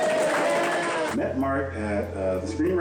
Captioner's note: crowd applauding